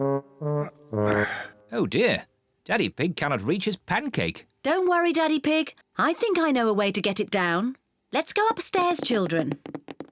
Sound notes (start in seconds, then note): 1.0 sighs